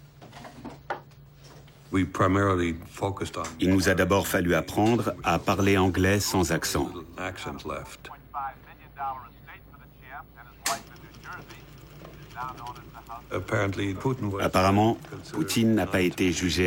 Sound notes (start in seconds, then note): 8.0 English language spoken